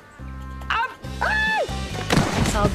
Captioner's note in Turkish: Bağırma sesi; Düşme sesi